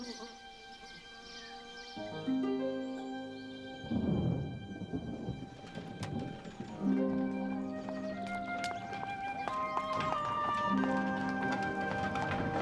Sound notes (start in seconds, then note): 3.8 thunder